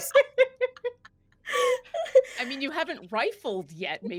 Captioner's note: everyone laughs